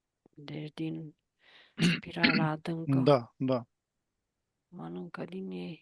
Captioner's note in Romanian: voce dreasă